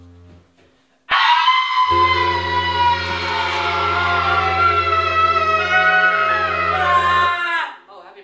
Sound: screaming

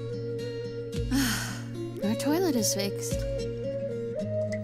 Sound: sighs

